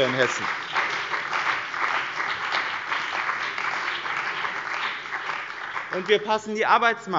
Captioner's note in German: Beifall bei dem BÜNDNIS 90/ DIE GRÜNEN und der CDU